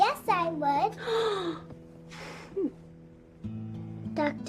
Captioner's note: gasps